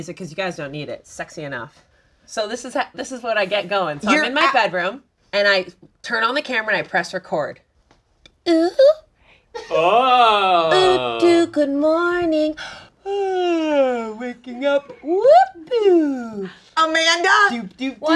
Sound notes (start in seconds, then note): 8.5 high-pitched, girly voice; 10.3 high-pitched voice; 12.9 yawns